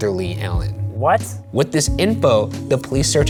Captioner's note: voiceover